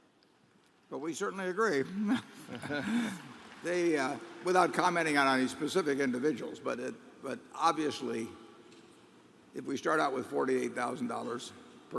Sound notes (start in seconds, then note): 2.4 applause